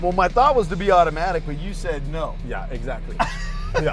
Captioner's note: laughs